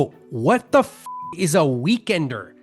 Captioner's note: beep